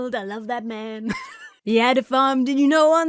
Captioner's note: laughs